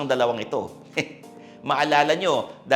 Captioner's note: chuckles